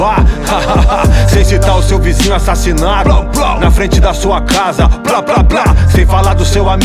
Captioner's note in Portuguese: Ha-ha-ha